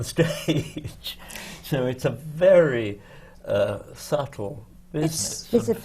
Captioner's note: laughs